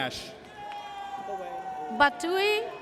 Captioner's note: audience cheers